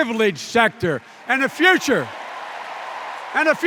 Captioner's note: cheers and applause